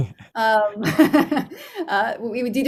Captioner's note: both laughing